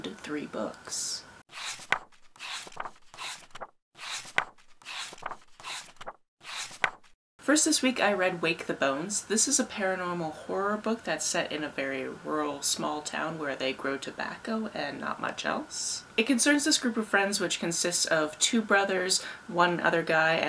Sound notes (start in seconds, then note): 1.5 pages turning